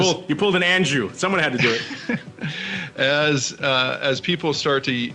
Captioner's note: laughter